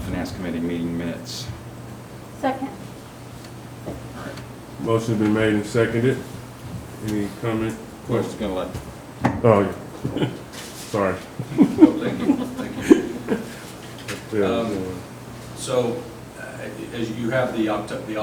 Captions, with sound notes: finance committee meeting minutes. - Second. - Motion has been made and seconded. Any comment questions. - Sorry. (chuckles) - So as you have the octet,